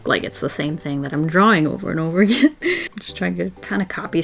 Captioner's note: giggles